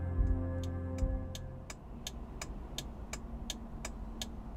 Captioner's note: blinker clicking